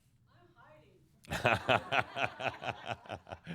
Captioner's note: laughter